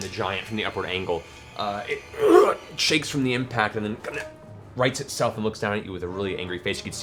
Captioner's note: grunts